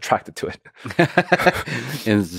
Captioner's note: Lex laughing